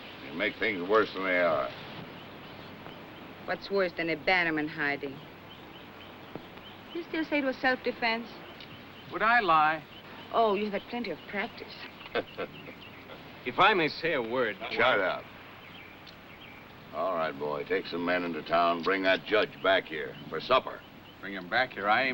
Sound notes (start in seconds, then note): 11.7 chuckles